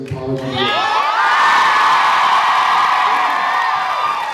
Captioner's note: cheers, applauds